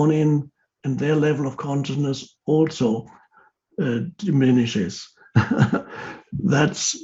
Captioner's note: laughs